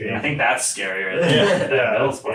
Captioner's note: all laughs